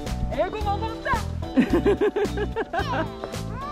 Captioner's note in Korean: 웃음